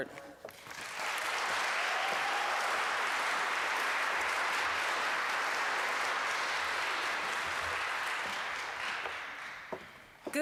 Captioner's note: applause